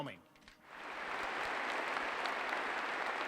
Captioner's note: applause